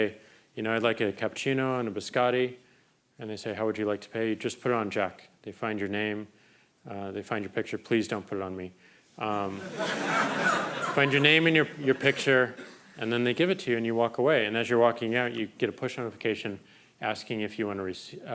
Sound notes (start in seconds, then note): 9.4 crowd laughing